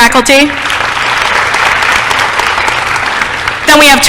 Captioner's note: applause